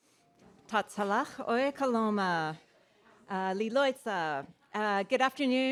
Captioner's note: speaking foreign language